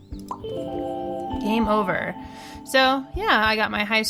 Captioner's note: blings